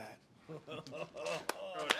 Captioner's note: man laughing; clapping